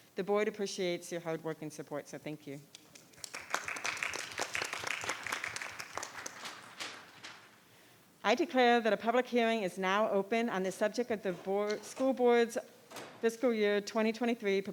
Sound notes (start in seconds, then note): 2.8 audience clapping